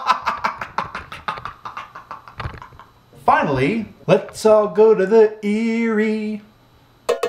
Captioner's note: laugh